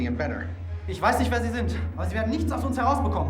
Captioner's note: speaking german